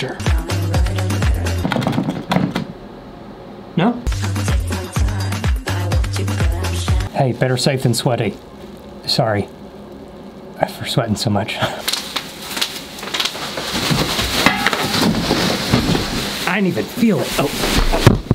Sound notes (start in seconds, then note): 0.3 uptempo music; 13.0 bucket clutters